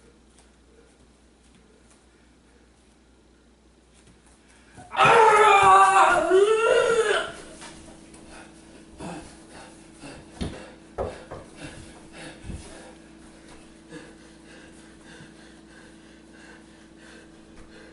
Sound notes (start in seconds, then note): 4.8 terrible yelling; 8.2 panting hard